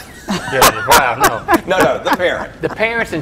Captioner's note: laughs